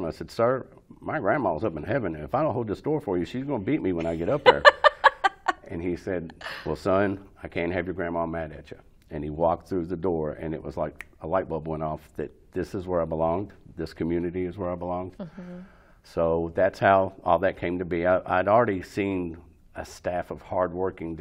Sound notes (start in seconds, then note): 4.0 laughs